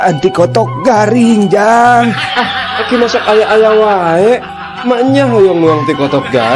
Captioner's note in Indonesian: tertawa